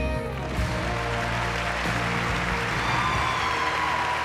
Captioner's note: cheering and applause